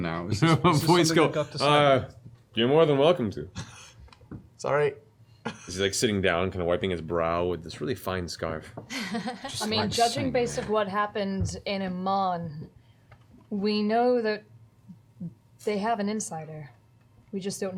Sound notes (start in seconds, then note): 4.8 chuckles